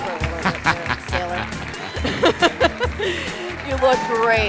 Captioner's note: laughing